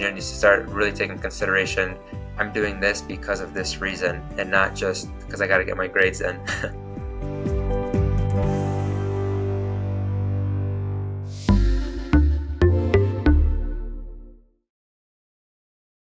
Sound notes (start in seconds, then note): 6.4 chuckles; 12.9 soft lively music